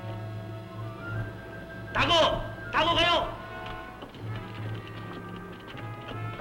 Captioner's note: speaking filipino